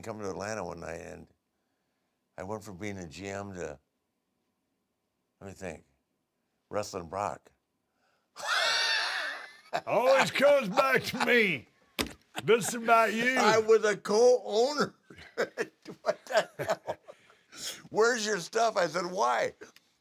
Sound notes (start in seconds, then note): 8.4 laugh